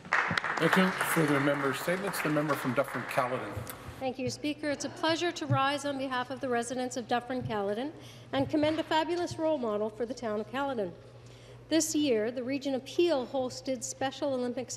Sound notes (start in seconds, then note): 2.5 applause